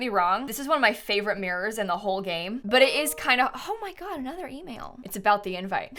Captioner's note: notification sound